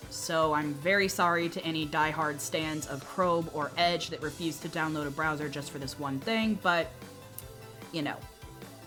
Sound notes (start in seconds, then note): 7.3 clicks tongue